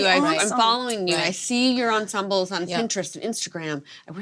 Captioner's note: none